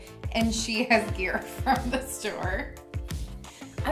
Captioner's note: laughs